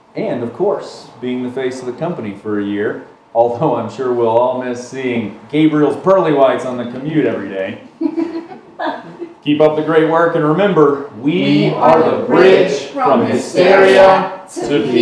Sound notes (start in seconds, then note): 8.0 all laughing